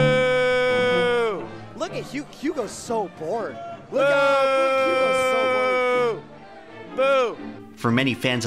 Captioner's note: commentators booing Jigglypuff player on mic